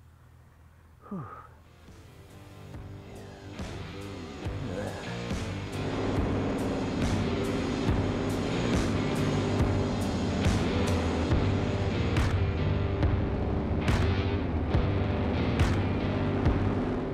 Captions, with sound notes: (sighs) Yeah. Look at that. (powerful rock music)